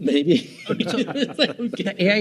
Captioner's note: laughing